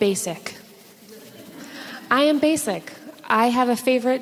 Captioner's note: audience laughs